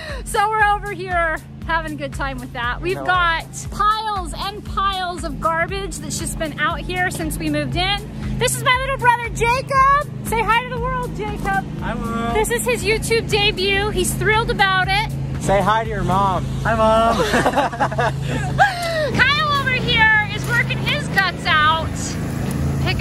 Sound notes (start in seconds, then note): 17.0 laughing